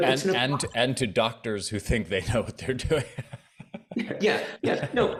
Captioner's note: laughs